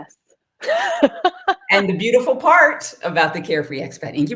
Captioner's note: laughter